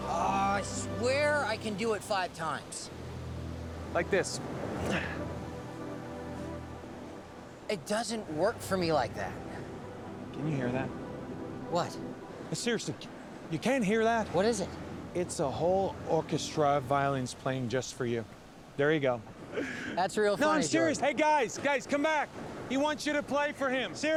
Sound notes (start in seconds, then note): 4.8 grunts